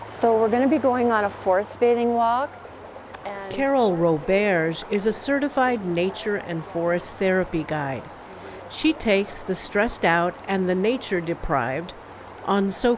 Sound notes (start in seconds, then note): none